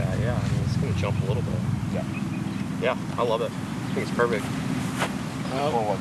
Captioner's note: chatter